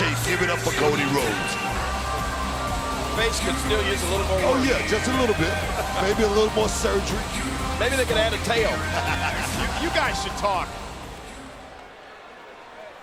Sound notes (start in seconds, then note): 8.5 Booker laughs